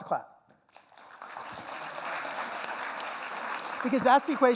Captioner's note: applause